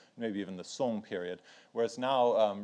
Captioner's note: speaks in foreign language